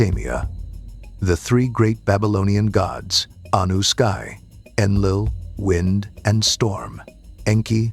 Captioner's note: wind and storm